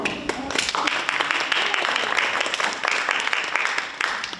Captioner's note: audience applauds